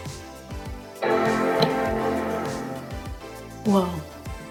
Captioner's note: computer chimes